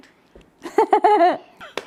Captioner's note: giggles again